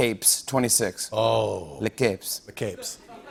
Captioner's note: French accent